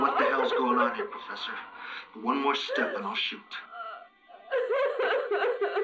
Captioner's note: laughter